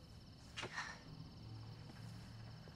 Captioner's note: sighs